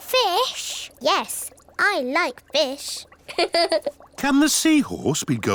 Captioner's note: laughs